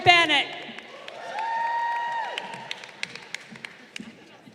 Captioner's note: crowd cheering